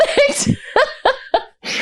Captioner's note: laughter